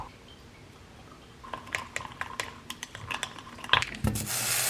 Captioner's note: stirring